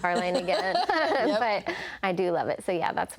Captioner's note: laughs